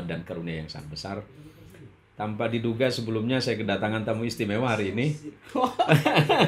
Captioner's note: laughs